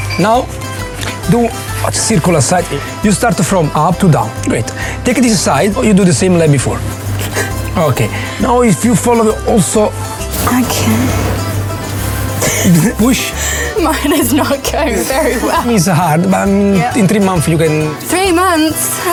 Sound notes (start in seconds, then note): 15.4 laughs